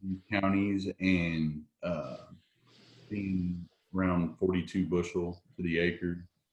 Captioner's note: audio is choppy